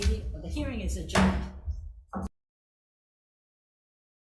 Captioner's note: gavel bangs